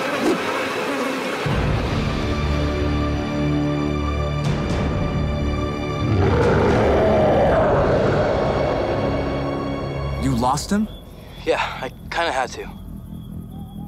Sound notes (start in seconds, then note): 2.0 dramatic music; 6.0 Boyd roars; 8.0 dramatic music continues